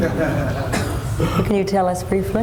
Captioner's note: laughter